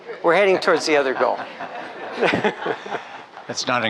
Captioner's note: laughs